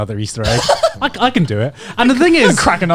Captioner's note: chuckling